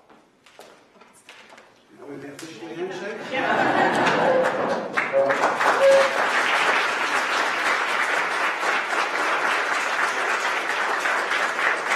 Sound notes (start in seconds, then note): 3.2 laughter; 3.9 applause